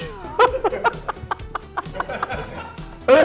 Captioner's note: laughing